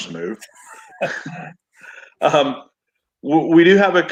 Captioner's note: laughs